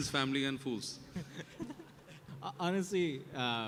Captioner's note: laughter